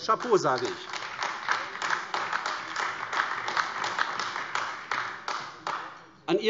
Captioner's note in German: Beifall AfD